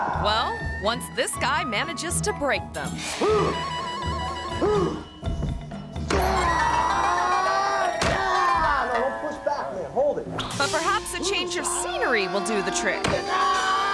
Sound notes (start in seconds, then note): 3.4 martial artist grunts